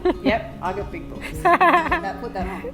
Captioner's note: laughing